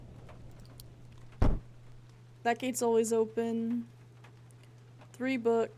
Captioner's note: loud Thud